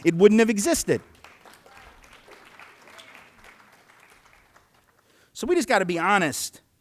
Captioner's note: applause